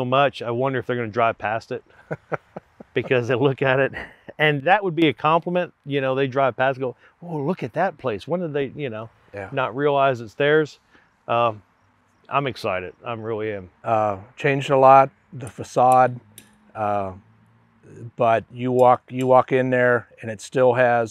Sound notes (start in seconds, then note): 1.8 laughing